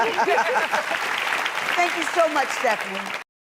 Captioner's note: applause